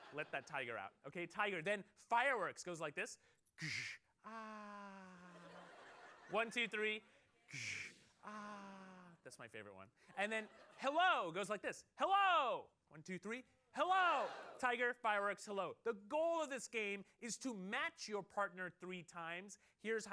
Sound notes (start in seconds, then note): 5.0 laughter